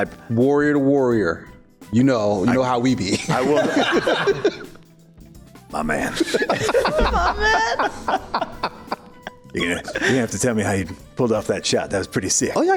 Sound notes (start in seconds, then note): 3.1 laughs; 6.1 uncontrollable Laughter